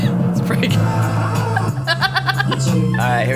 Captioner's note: laughs